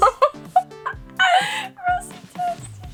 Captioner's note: laughing